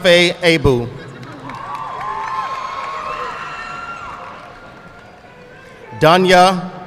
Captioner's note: audience cheering and applauding